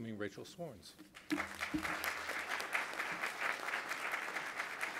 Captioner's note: audience applauding